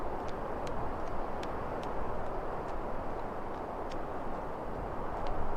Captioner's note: footsteps tapping continues